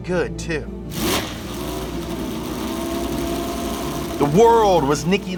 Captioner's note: heavy engine noise